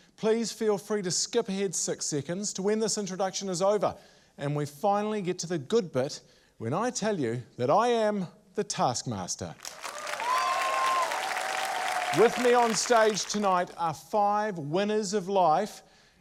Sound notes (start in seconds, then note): 9.6 cheering, applause